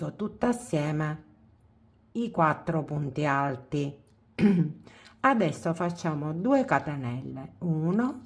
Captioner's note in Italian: schiarire la voce